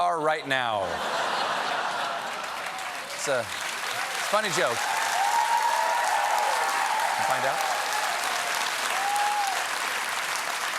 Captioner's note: laughter; cheers and applause